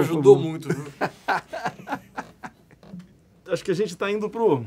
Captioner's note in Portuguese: Risadas